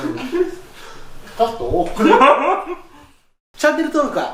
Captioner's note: laughs